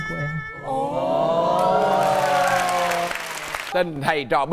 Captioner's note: applaud